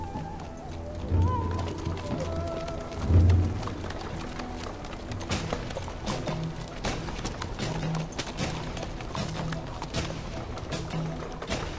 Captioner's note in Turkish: Nal ve kağnı sesleri